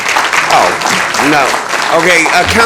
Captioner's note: applause